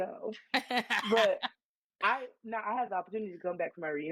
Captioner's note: laughing